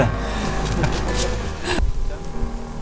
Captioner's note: laught